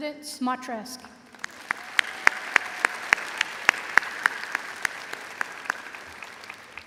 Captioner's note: audience applauding and cheering